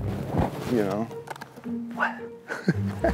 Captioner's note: laughs